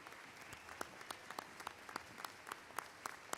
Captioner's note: applause